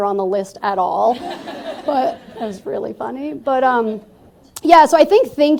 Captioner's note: laughter